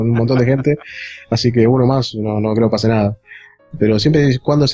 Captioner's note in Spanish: risas